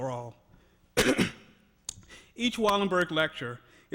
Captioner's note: coughs